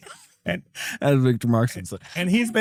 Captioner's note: laughing